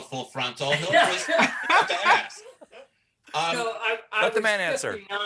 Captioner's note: laughter